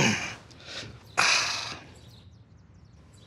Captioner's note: dad sighs